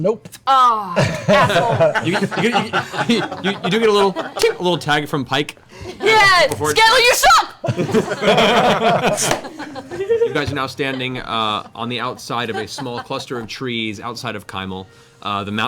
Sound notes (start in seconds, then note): 7.6 laughter